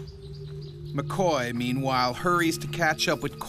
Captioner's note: voiceover